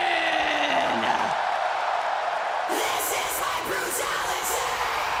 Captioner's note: crowd cheering